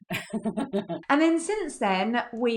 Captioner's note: giggles